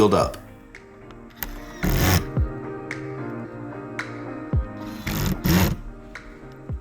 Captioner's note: upbeat music; drill machine drilling